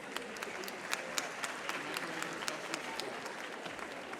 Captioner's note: audience applauding